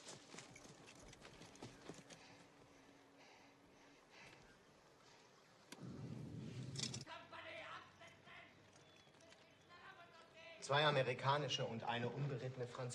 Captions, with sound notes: GERMAN SOLDIERS:(shouts in German) [SPEAKING IN GERMAN]